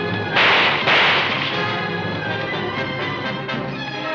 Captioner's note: guns firing